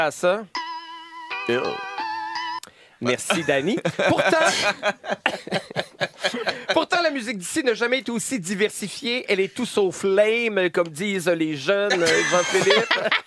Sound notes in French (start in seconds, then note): 3.2 rires; 11.9 rires